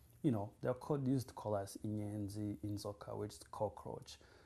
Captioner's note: non-english